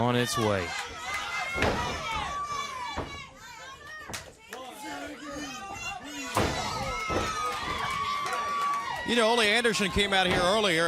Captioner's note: crowd cheering